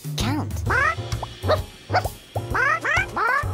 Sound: pigeon yelling

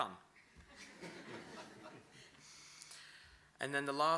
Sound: laughter

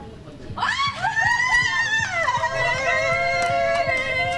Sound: both screams in excitment

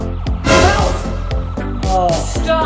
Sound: jump scare sound

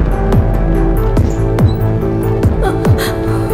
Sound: door squeaking

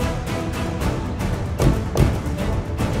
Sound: car door closes

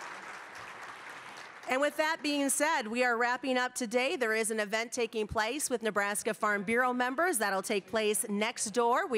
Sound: applause

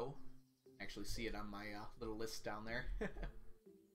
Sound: chuckles

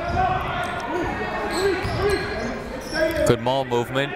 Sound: shouting

